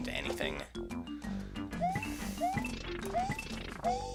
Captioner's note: breathing